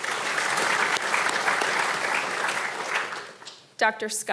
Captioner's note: audience applauding